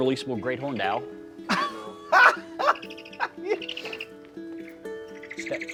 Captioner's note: Baratunde laughs